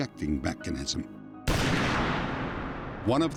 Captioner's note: gunshot